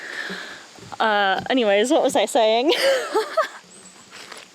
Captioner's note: laughs